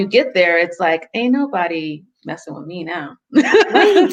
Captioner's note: laughs